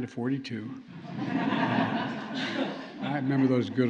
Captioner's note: laughter